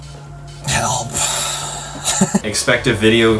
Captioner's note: laughing